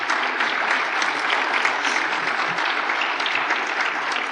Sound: applause

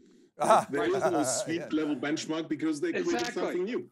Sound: laughs

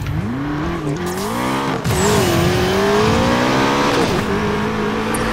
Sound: nitrous oxide hisses, engine roars

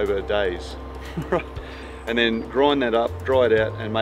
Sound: chuckles

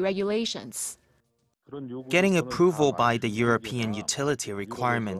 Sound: Korean

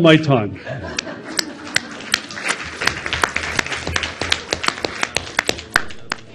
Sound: audience laughs and applauds

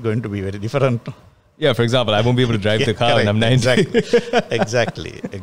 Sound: laughs

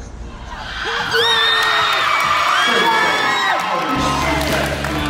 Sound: cheering and clapping; upbeat rock music

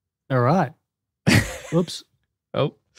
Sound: laughs

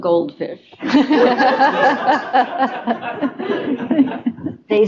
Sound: laughter

